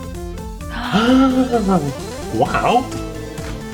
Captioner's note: both gasps